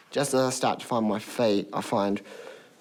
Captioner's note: none